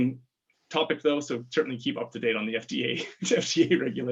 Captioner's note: laughs